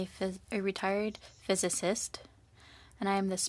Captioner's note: speaking French